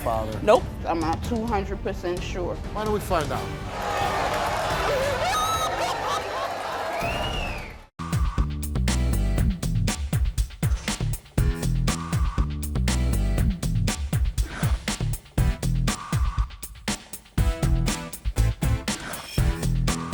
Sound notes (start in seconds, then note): 3.6 audience roars; 4.6 wailing